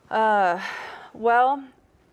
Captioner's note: sighs